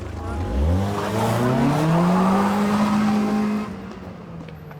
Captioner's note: engine revving, tires screeching